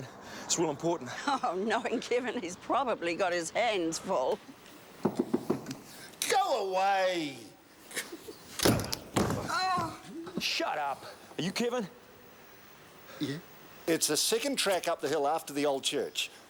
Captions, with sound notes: It's real important. - Oh, knowing Kevin, he's probably got his hands full. (knocking) - Go away! (shouting) - Shut up! Are you Kevin? - Yeah. - It's the second track up the hill after the old church.